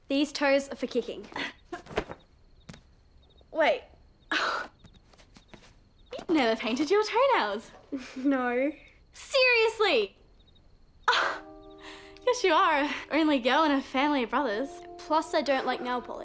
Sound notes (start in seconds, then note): 7.9 chuckles; 11.1 laughs